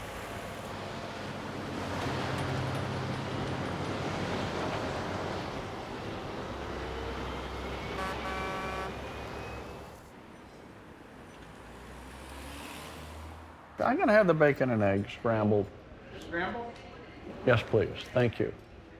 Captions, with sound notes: [truck engine rumbling] [horn honking] [engine faintly revving] - I'm going to have the bacon and eggs, scrambled. - Scrambled? - Yes, please. Thank you.